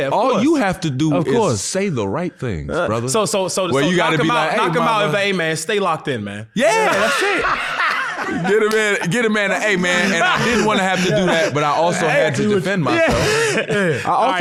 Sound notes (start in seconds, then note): 8.1 laughs